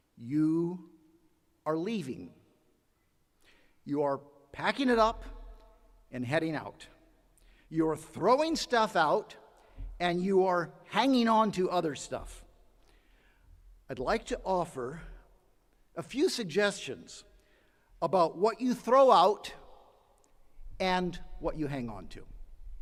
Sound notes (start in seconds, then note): none